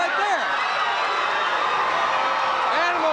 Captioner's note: audience cheers